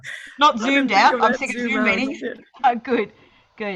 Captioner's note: talking in unison